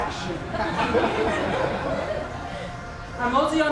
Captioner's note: laughs